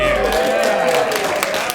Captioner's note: applause